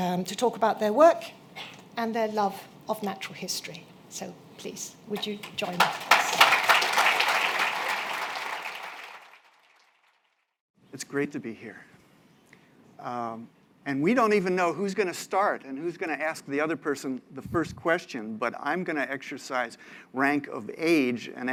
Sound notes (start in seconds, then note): 5.2 applause